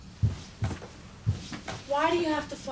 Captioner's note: footsteps receding